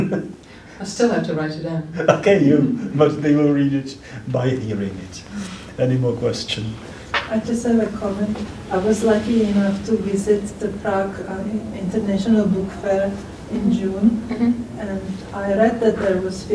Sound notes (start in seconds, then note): 0.0 laughs; 2.1 laughter